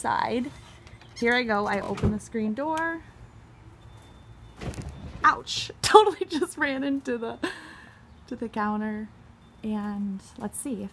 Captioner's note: cracking up